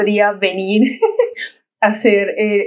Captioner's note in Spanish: ríe